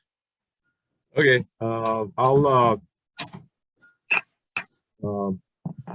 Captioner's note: sounding gavel